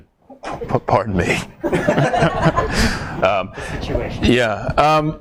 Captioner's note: audience laughs